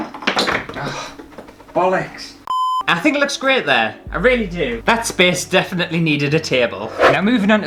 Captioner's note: beep